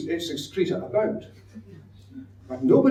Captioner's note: audience laughs